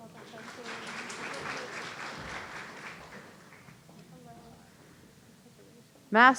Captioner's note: audience applauding